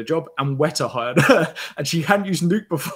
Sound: laughs

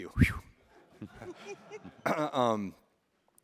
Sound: laughing

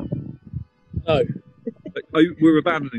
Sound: chuckling

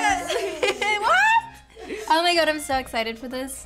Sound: laughs

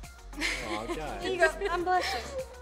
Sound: girls chuckling

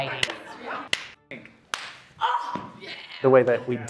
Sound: slapping

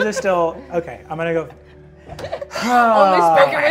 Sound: sighs

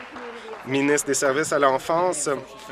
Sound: applause

